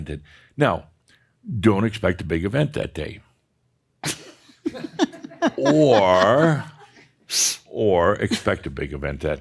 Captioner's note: chuckles